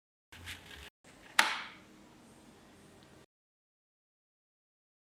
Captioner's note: pop